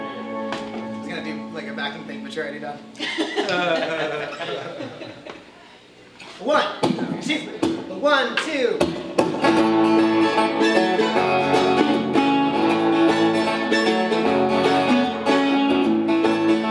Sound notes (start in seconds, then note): 5.9 laughter